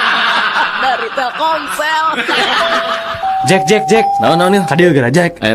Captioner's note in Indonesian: tertawa